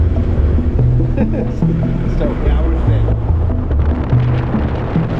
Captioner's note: man chuckles; thoughtful music